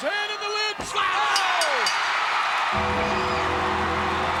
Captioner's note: crowd cheering